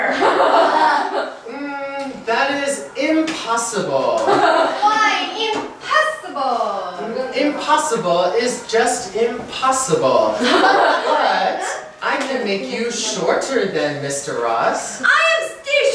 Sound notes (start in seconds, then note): 0.0 laughing; 4.2 laughing; 10.4 laughing